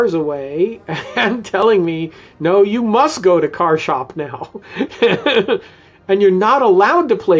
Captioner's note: laughs